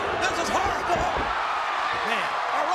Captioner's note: crowd cheers